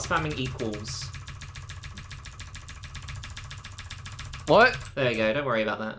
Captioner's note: keyboard loudly being mashed